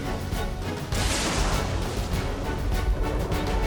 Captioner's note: thunderclap